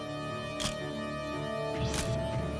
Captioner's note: camera shutter click